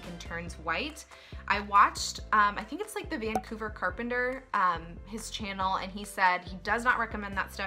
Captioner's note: cork pop